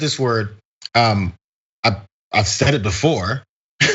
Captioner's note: laugh